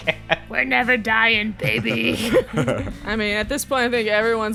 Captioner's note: laughs; laughter